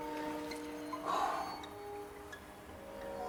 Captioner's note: sigh